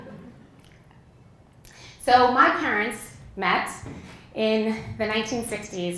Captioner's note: laugh